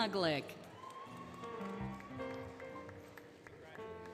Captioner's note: applause, Cheering, Music